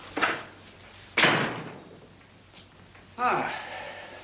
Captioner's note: door closes